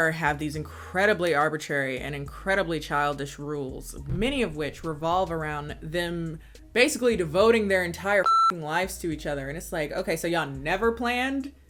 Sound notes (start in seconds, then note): 8.2 beep